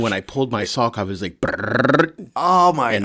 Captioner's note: trills tongue